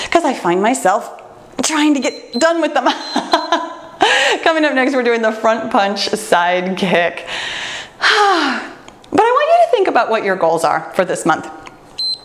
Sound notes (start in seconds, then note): 2.0 timer beeps; 3.4 laughs; 12.0 timer beeps